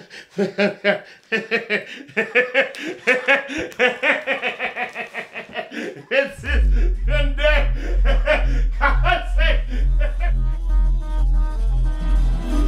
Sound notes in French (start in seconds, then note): 0.9 rires forts